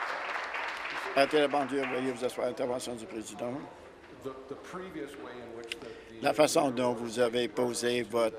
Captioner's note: applause